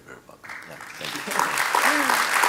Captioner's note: audience applauding